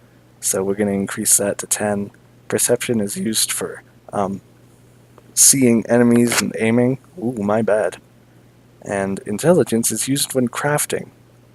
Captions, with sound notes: So we're gonna increase that to 10 Perception is used for, um Seeing enemies and aiming (brushes microphone) ooh, my bad and Intelligence is used when crafting.